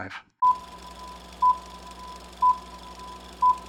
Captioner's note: beeping